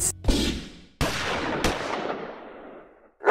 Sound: pow; gunshot; angry dog bark

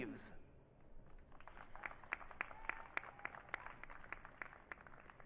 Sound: audience clapping

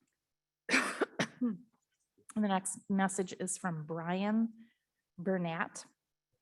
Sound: coughs

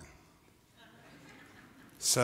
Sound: laughter

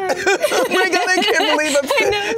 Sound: laughs

